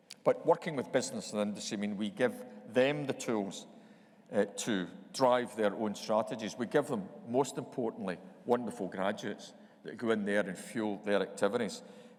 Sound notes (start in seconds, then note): none